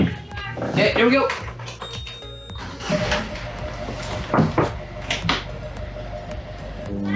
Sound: beeping; whirring

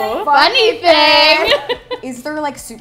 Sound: laughter

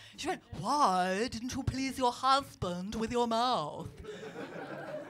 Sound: posh accent; laughter

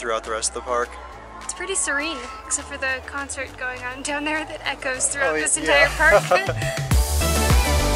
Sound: giggles

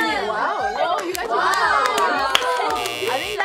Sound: group cheering

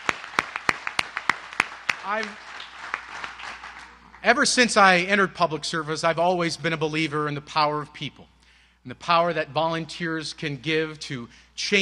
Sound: applause

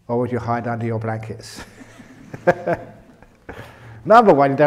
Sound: laughter

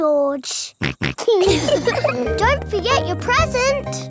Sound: snorts; laughs

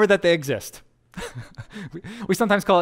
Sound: pastor: Laughter

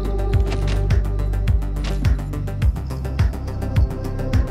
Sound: punching bag jingles; soft music

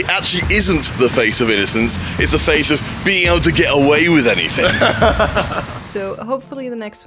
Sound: laughs

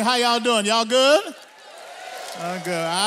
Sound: audience applauds; audience cheers

